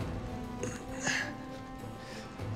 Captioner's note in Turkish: İnilti sesi